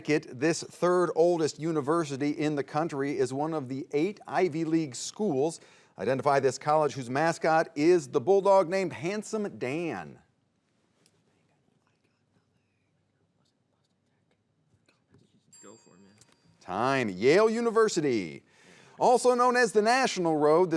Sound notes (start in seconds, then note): 11.0 players whispering; 15.5 bell dinging